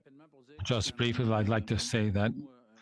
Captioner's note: speaking French